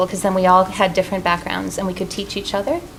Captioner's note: none